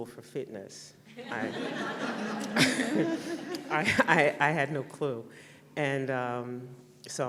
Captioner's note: laughter